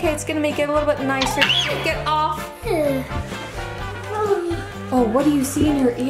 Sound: screams

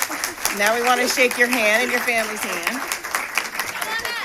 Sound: applause

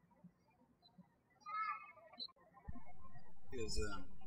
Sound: birds chirping

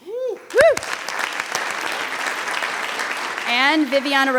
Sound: audience applauding

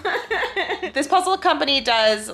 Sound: laughing

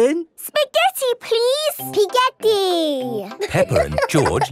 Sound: laughing

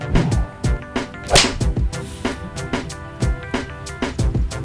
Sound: loud slapping

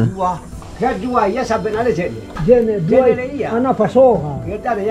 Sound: men speaking in language

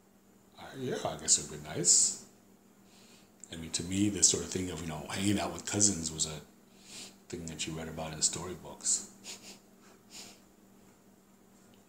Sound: laughs

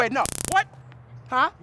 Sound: zap

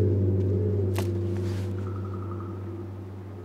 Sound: snap

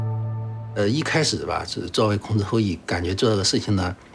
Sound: speaking Chinese

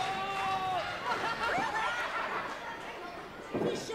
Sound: crowd gasps

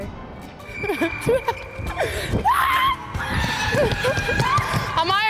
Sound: laughing and screaming

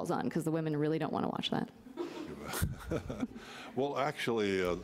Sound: laughing

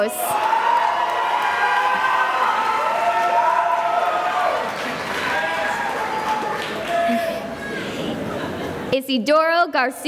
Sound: cheering and applause

